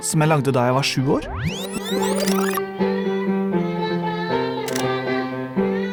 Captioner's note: in gibberish language